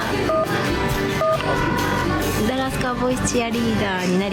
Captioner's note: phone ringing; speaks in foreign language